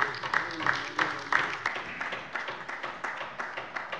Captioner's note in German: Beifall bei der LINKEN